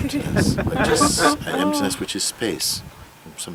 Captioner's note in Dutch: gelach